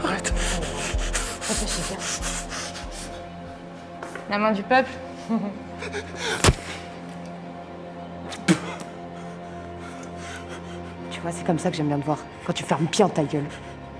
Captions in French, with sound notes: Alors Yann ? Réfléchis bien ! La main du peuple *glousse* Tu vois, c'est comme ça que j'aime bien te voir, quand tu fermes bien ta gueule !